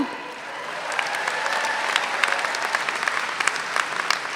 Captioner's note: all applaud